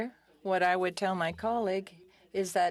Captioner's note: speaking FRENCH